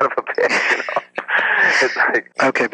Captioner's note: chuckles